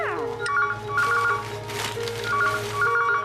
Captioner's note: phone Rings